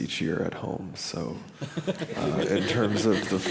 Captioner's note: laughter